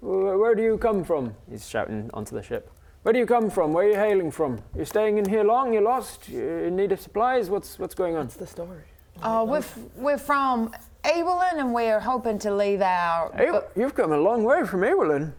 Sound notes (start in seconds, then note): none